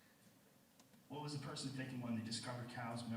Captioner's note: voiceover